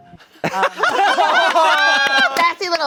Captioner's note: everyone laughing